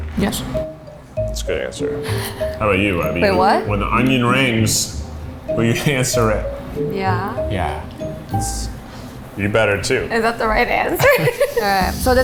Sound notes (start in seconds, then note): 0.6 whimsical music; 1.8 laughs